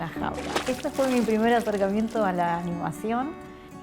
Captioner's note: splash